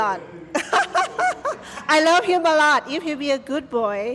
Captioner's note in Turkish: kahkaha